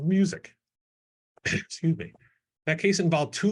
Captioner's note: clears throat